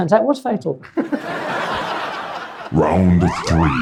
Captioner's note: audience laughs